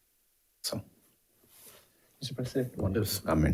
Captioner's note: speaking faintly